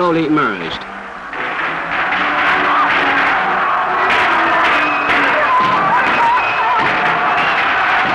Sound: gunshots, crowd roaring

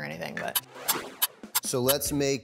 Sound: clock ticking

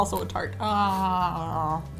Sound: takes loud bite

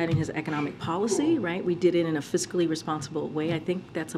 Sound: A reporter sneezes

